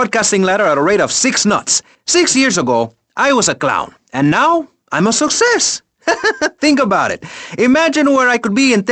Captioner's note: chuckles